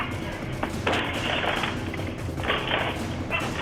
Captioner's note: window rattling